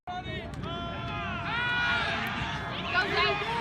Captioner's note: players yelling